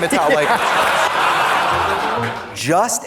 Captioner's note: audience laughs; upbeat music